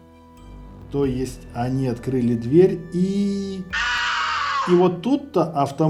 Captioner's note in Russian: крик